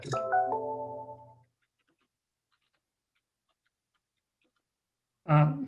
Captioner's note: fading chiming bells